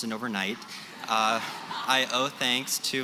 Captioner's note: laughter